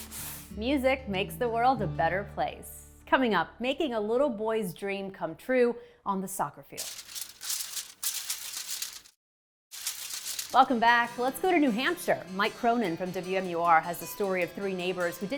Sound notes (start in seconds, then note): 6.8 paper crumpling